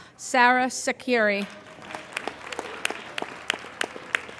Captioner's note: applauding